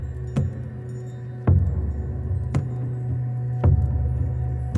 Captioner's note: tinkling chimes